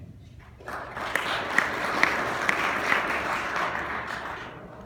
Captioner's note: applause